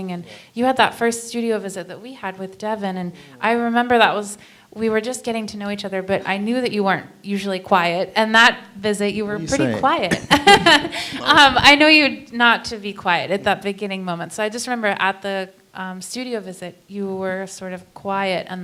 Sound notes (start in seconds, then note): 9.2 laughs